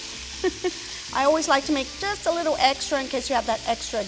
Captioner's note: chuckles